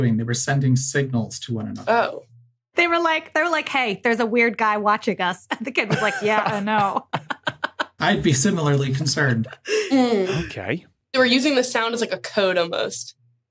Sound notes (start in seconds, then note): 5.6 chuckle